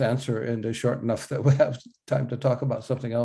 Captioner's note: laughs